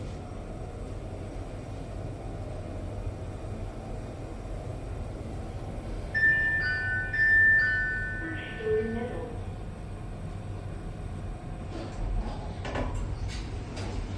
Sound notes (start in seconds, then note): 6.1 ding-dong, ding-dong; 6.2 chime